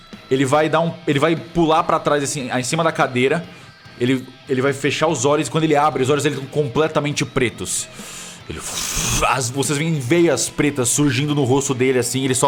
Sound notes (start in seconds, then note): 8.7 whoosh